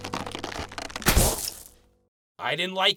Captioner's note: pop